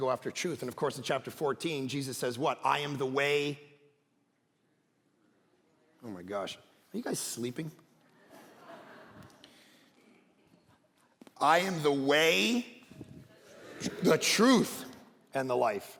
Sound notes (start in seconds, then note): 8.1 congregation laughing